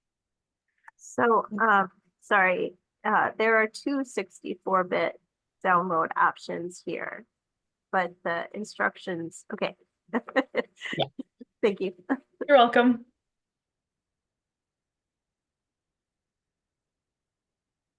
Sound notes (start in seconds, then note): 10.2 laughs